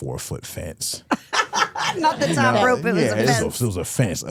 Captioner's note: laughs